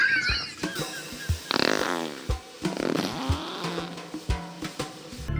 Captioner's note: sound of flatulence